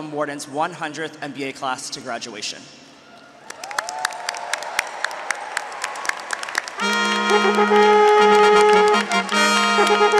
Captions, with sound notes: Wharton's 100th MBA class to graduation. (audience and graduates cheering) (audience and graduates applauding) (resolute music)